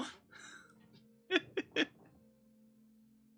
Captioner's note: laughs